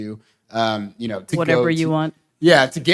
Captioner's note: boo